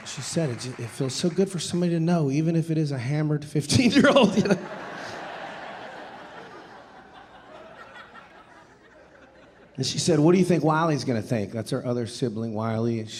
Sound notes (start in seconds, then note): 3.9 audience laughing